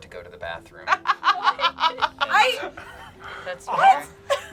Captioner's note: laughs